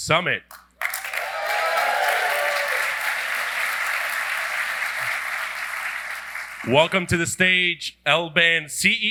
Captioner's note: applause